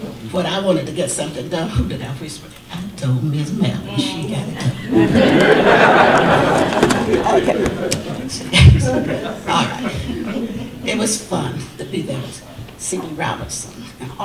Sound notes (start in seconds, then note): 4.2 audience laughter